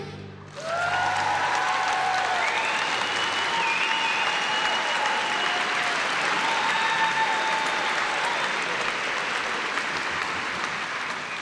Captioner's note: applause